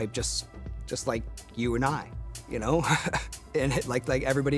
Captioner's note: chuckles